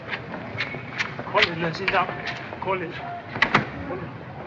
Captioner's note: speaking in Chinese